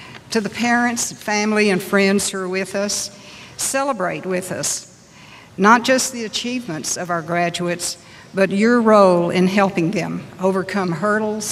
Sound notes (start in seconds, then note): none